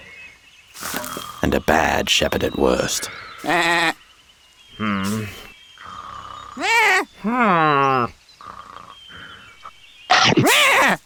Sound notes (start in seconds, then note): 3.4 sheep bleats; 4.6 man grunts dismissively; 4.8 man snores; 6.6 sheep bleats loudly; 6.6 man grunts annoyedly; 8.9 man snores; 10.4 sheep bleats in terror